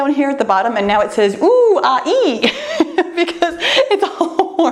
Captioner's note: laughs